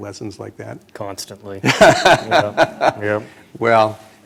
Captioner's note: laughter